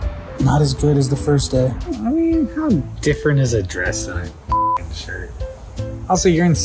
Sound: beep

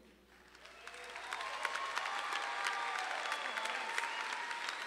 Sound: audience applauding

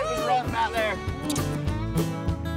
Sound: smooch

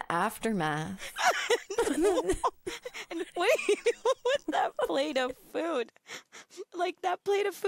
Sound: laughs

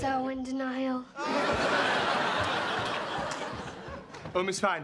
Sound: laughter

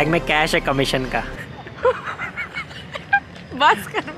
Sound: giggling

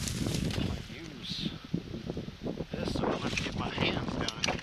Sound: wind blowing

